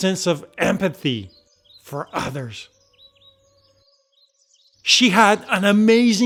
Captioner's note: birds chirping